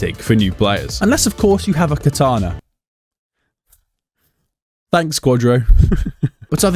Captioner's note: laughing